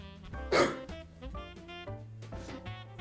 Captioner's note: laughs